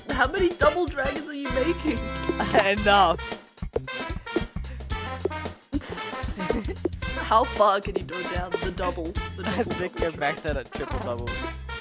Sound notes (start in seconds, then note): 2.5 giggles; 5.9 both snickering